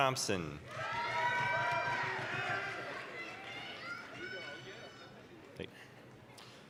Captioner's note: applause, cheering